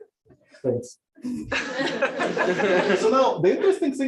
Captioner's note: laughter